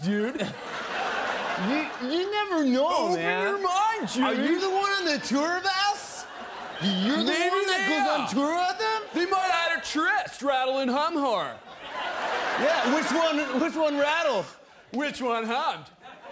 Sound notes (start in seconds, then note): 0.0 surfer voice; 0.2 laughter; 1.6 same surfer voice; 11.7 laughter